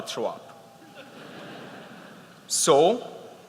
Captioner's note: laughter